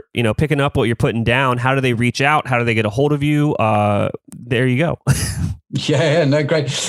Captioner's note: laughs